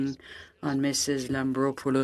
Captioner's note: speaking French